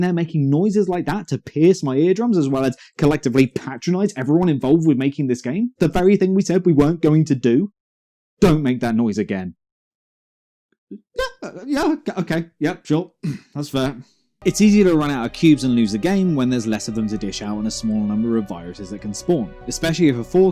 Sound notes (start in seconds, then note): 13.2 ahem